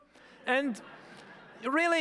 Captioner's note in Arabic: الجمهور يضحك